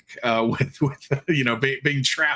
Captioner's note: chuckling